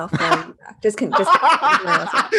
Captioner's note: laughter